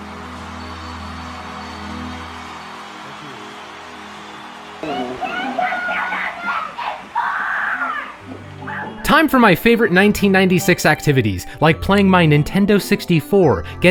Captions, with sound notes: (crowd cheering) (children screaming) Time for my favorite 1996 activities. Like playing my Nintendo 64,